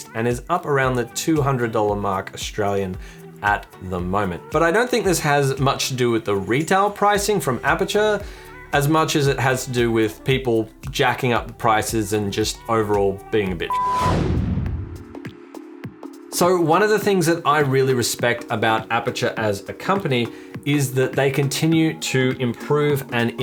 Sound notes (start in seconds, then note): 13.6 beep